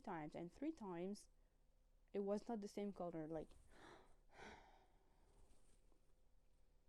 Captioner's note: sighs